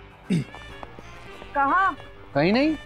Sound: clears throat

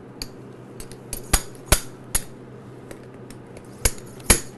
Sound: hammering sound

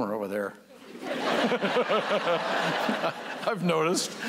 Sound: laughter

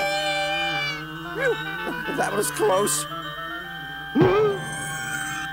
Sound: gasps

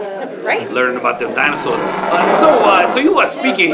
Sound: dinosaur roar

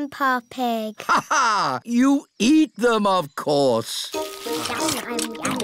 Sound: laughs

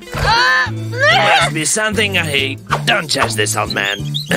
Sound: loud grunting

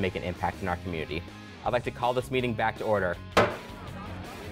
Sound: gavel strikes

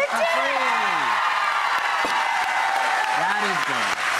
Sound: audience cheers

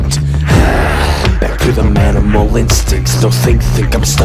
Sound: groans

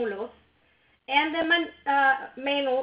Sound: speaks in foreign language

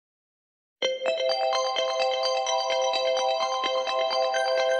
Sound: alarm ringtone

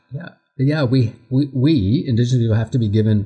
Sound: none

